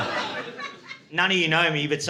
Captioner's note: laughter